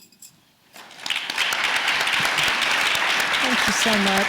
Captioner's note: audience applauding